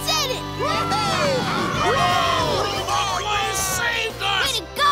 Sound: cheering

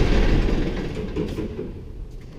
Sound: engine stops

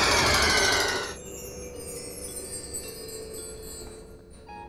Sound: screaming; SFX: chimes

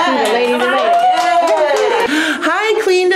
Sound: cheering

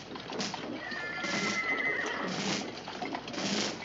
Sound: horse whinnying

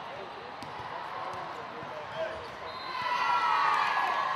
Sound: crowd chatter

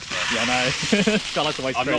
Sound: laughs

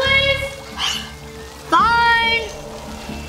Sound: sighs

